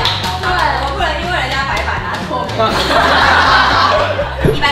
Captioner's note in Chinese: 哄堂大笑